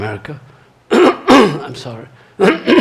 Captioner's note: throat clearing